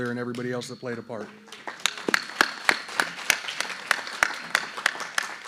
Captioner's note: applause